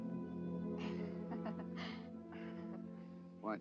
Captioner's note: Rosie laughs